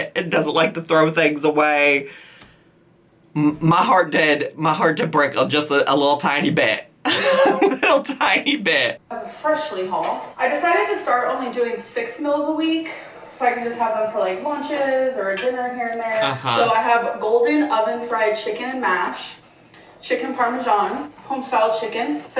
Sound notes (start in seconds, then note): 7.1 laughs